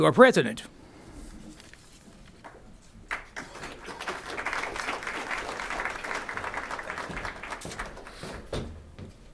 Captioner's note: applause